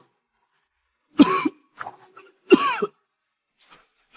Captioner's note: cough cough